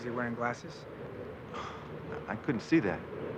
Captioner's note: sighs